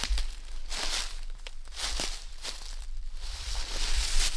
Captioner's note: leaves crunching